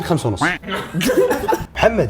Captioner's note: laughs